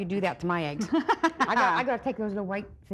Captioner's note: laughing